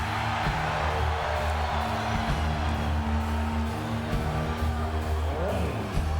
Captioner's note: crowd cheering; energetic rock music